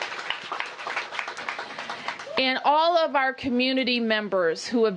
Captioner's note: applause